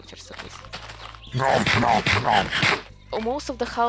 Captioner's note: nom nom nom